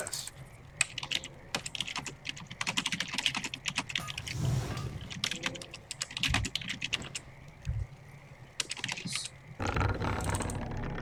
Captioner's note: typing sounds